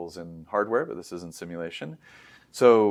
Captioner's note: inhales